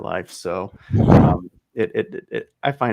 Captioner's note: chuckles